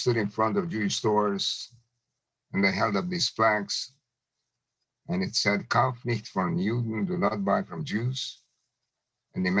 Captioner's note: German